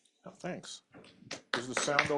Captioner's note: applause